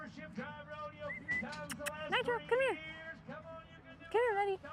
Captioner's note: whistles and clicks